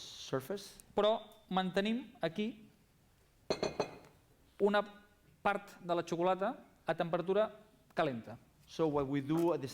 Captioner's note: non-english speech